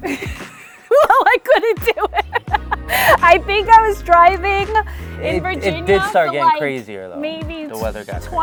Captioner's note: laughing